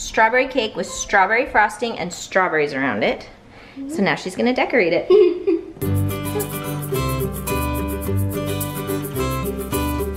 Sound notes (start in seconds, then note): 5.0 giggles; 5.8 delightful music